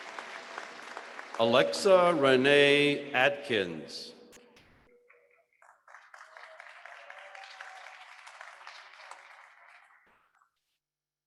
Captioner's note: applause